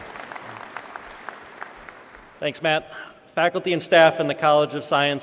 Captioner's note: applause